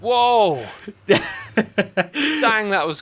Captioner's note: laughs